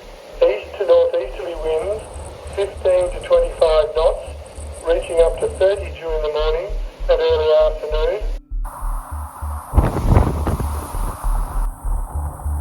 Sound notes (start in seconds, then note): 8.6 wind howling